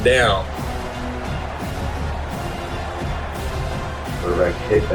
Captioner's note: crowd Noises